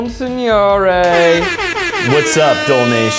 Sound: air horn

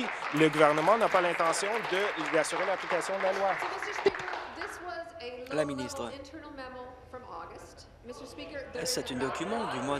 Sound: applause

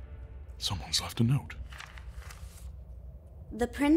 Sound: paper unfolding

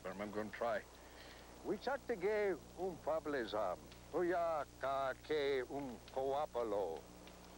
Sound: speaking Sioux

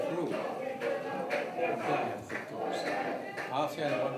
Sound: protesters continue

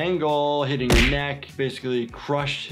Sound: bath clanks

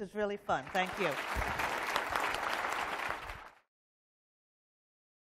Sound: applause

